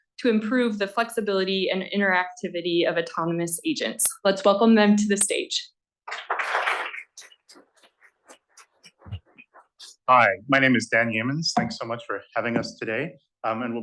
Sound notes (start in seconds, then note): 6.1 applause